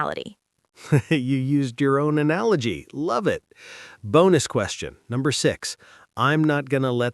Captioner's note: laughs